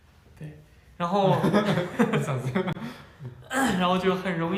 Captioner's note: hahaha